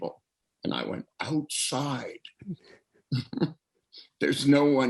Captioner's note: laughs